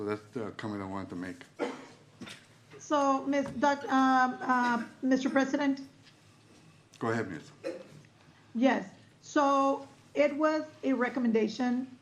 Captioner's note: clears throat